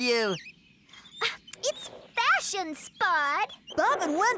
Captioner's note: exasperated